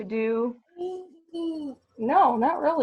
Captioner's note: vocalizes